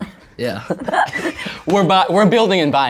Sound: audience laughs

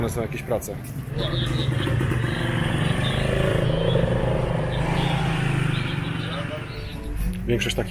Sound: motorcycles

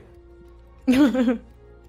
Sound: laugh

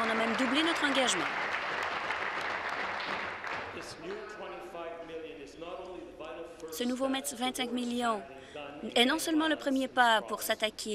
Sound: applause

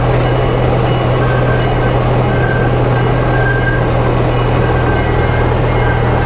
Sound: train bell clanging; train brakes squeaking

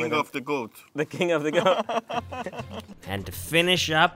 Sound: laughs

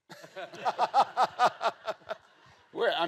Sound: laughs

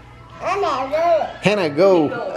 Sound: baby mumbles

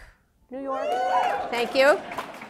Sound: cheers

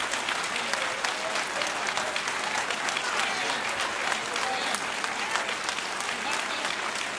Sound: cheering and applause

